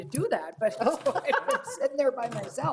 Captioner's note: ladies laughing